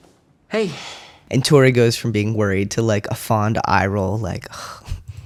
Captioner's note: fond sigh